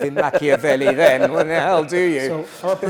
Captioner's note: laugh